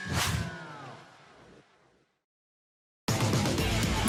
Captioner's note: air whooshing